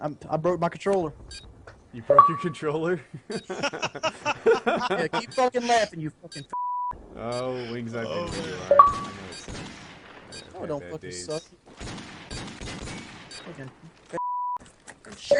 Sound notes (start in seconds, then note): 2.9 all laughing; 11.6 gunshots